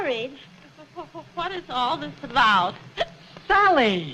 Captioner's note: hiccup